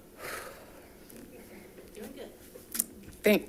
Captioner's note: sighs